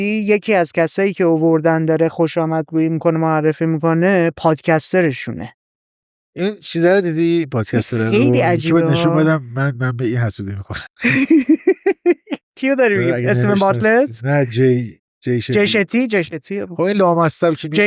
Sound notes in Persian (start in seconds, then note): 11.0 خنده